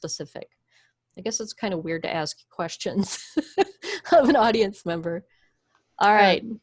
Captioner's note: chuckles